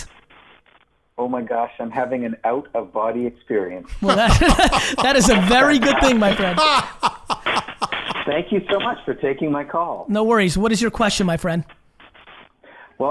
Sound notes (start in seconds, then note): 3.9 laughing